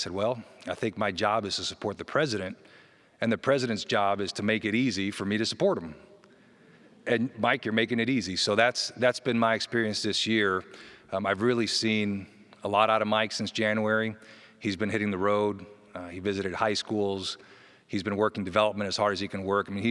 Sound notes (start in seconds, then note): none